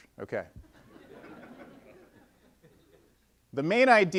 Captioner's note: audience laughing